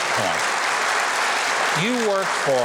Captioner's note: audience applauding